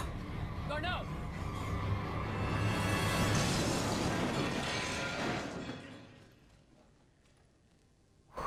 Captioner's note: explosion